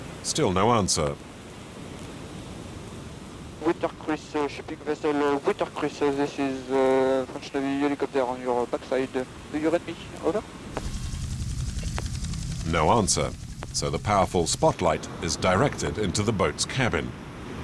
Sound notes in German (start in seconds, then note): 3.6 Fremdsprache 00:54:30